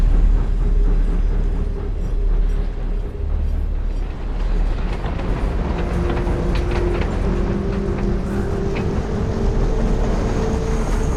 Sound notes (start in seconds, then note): 4.3 train moving along tracks